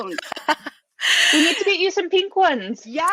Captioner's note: laughs; chuckles